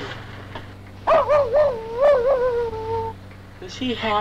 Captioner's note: Pete barking